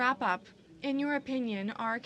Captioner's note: speaking French